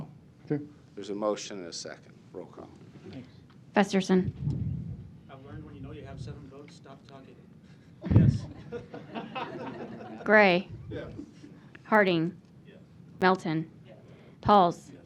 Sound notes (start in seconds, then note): 8.1 laughter